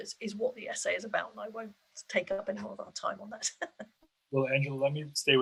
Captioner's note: laughs